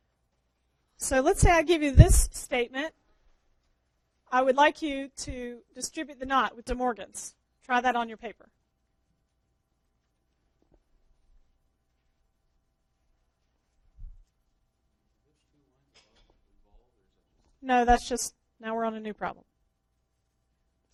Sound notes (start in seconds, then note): 10.3 pause